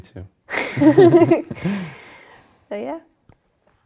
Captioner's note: laughs